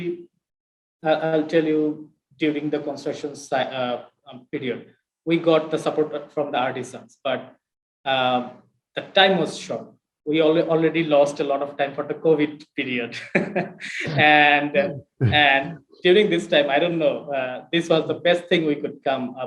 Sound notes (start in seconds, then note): 13.4 laughs